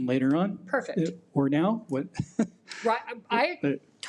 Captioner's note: laughs